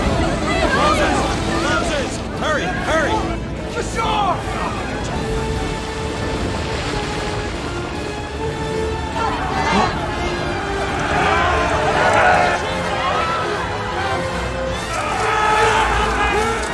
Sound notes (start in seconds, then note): 9.3 gasps; 10.7 soldiers shouting; 12.7 crowd clamoring